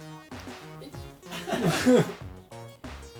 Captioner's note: laughter